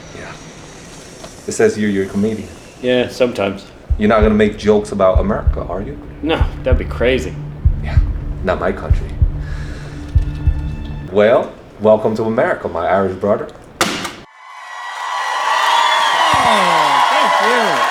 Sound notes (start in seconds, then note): 13.9 passport stamping; 14.4 audience cheering; 14.6 audience applauding